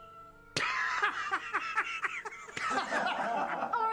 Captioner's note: Roderick laughs; all men laugh